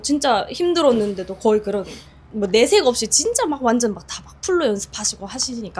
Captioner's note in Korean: 콧방귀